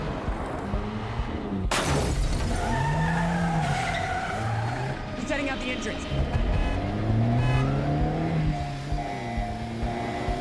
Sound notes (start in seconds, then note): 2.4 tires screech; 4.2 horn honking